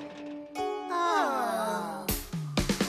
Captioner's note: all Sighing